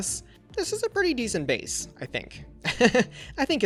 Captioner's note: laughs